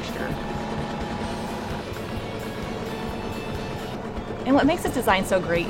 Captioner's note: sewing machine hums